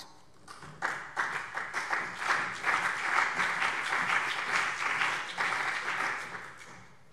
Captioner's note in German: Beifall BÜNDNIS 90/DIE GRÜNEN und CDU